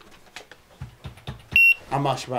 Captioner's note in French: bip